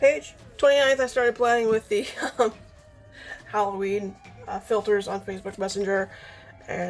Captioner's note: laughs